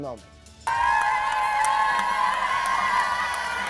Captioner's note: cheering